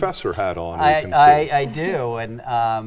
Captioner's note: chuckles